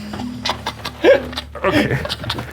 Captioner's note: chortling